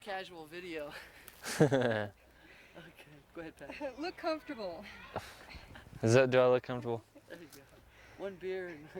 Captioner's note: laughs